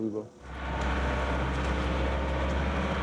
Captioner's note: loud excavator humming